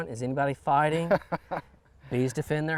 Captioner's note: chuckles